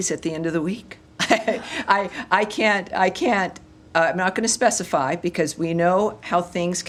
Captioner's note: laughter